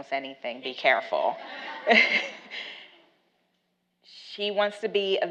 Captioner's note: laughs